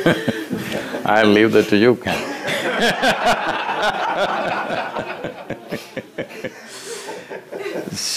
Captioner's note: laughter; 笑聲